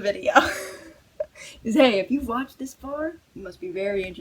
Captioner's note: laughs